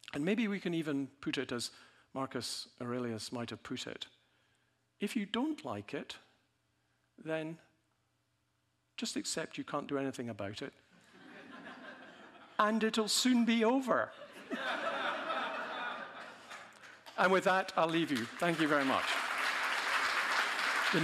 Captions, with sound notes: And maybe we can even put it as Marcus Aurelius might have put it. “If you don't like it, then just accept you can't do anything about it. (audience laughing) And it'll soon be over.” (audience laughing harder) And with that, I'll leave you. Thank you very much. (audience applauding)